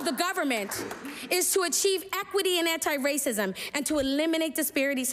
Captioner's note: applause